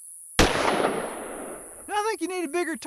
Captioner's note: gunshot